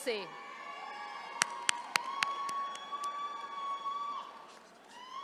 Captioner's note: attendees cheering